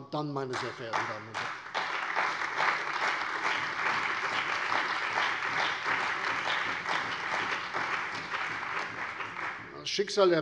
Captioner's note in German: Beifall bei der CDU und dem BÜNDNIS 90/DIE GRÜNEN